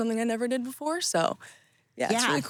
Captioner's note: laughing